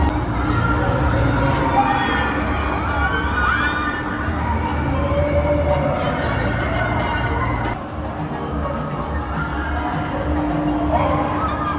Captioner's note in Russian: слышны крики людей на аттракционе